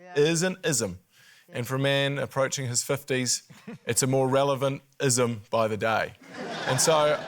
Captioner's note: laughter